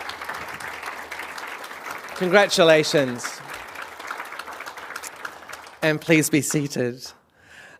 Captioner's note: applause